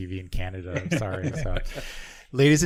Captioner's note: laughing